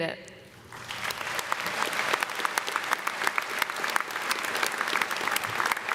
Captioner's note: audience and students clapping